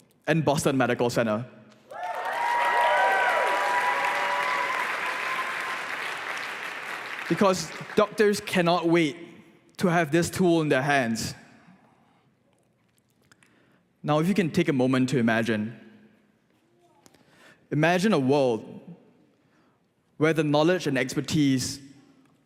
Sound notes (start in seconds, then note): 1.8 applause